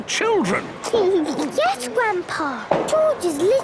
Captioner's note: giggles